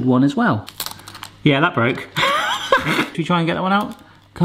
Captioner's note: laughs